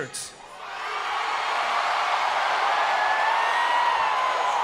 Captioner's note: crowd cheers